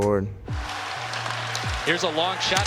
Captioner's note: crowd cheering